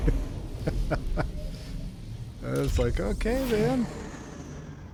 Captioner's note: laughs